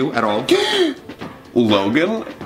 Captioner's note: gasps